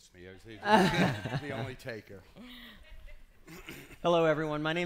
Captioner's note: laughing